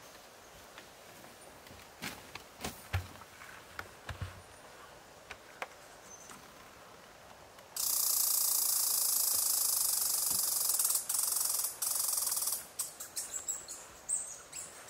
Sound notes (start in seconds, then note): 7.8 squirrel chirping